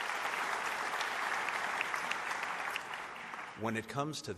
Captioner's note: applause